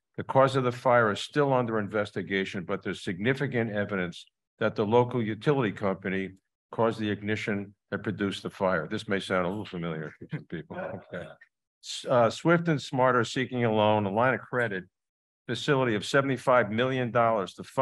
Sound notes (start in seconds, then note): 10.1 chuckles